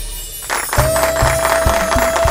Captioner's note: All clapping